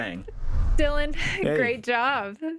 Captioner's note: scene swooshing